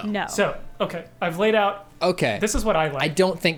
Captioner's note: pat